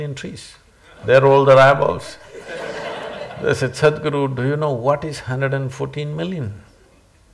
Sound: laughter

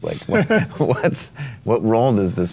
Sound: laughs

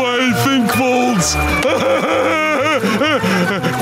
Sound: laughing

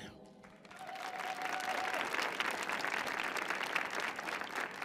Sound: audience clapping

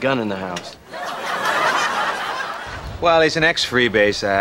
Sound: audience laughs

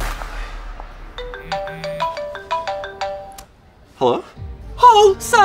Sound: phone rings

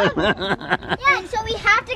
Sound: laughing

